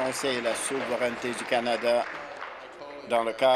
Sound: applause

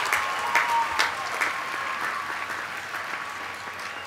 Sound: applause

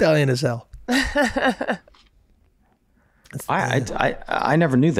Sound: Megan laughs

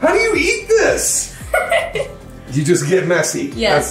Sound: giggling

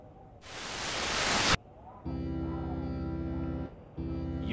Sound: air sucking

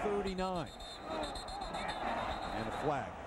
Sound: whistle

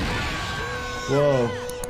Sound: both screaming

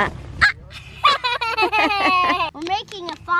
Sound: laughing

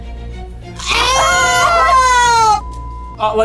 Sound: both screaming; beep

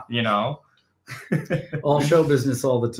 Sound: chuckling

